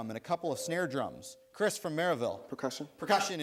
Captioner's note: buzzer sounds